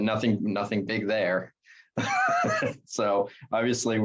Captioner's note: laughs